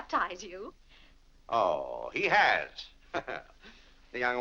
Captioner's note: laughs